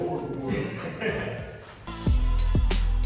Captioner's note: laughing; upbeat music playing